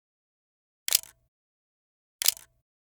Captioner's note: camera clicks